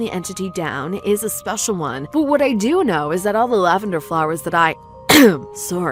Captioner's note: cough